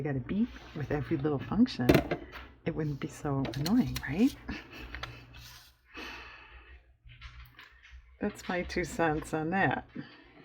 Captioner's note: laughs